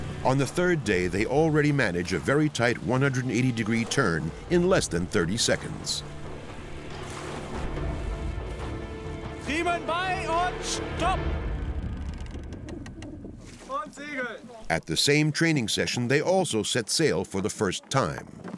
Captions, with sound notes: On the third day, they already manage a very tight 180-degree turn in less than 30 seconds. [speaking German] At the same training session, they also set sail for the first time.